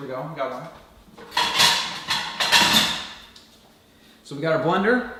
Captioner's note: clanging